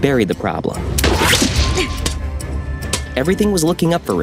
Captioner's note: gun firing